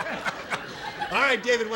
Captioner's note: laughter